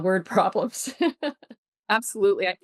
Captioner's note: laughs